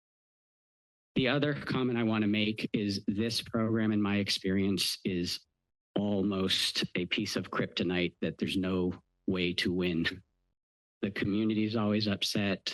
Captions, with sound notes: The other comment I wanna make is this program in my experience is almost a piece of kryptonite that there's no way to win. [chuckle] The community is always upset.